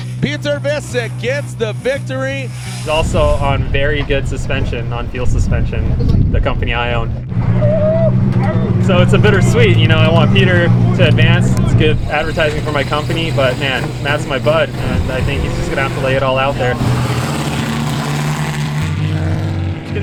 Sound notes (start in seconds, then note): 7.5 howling; 16.9 engine purring